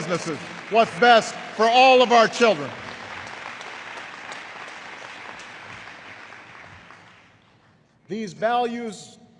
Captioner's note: applause